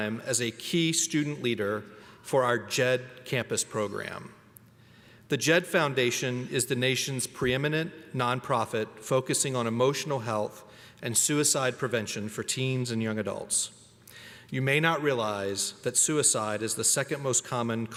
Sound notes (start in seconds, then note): none